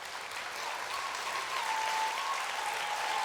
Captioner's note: applause